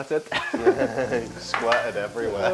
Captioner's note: laughter